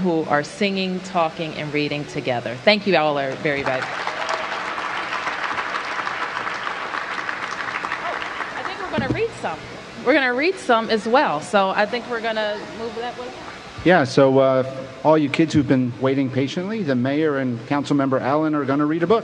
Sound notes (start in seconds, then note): 3.2 applause